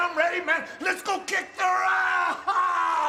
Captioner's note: yelling